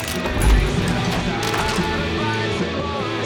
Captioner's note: gunshots